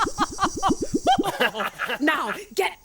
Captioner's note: laughing